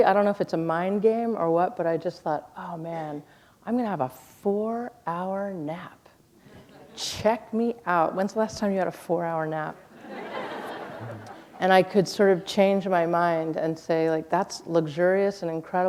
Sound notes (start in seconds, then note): 9.9 laughter